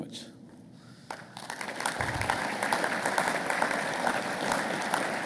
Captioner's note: audience applauding